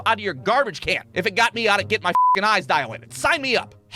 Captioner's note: beep